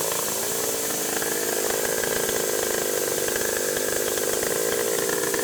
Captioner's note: machine cutting